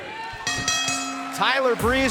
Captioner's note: bell ringing